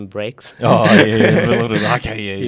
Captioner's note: laughs